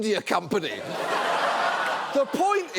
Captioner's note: audience laughs